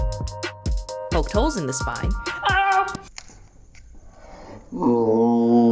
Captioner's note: screaming